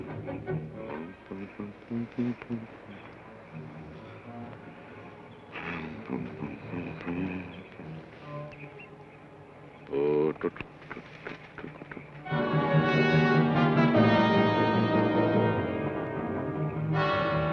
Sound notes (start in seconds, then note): 10.1 Joshua hums melodically; 12.2 tense orchestral music